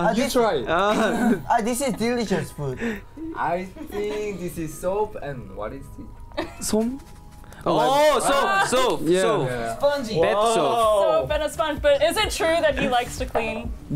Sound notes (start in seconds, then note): 1.0 chuckles